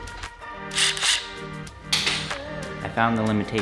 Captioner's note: impact gun whirs